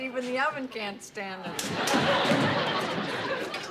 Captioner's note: laughter